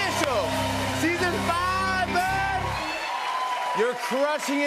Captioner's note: cheers and applause